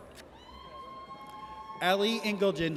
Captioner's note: audience cheers